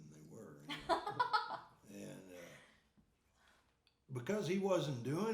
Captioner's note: laughing